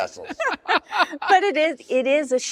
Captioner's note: laughter